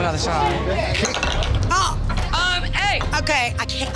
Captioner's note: crowd chatter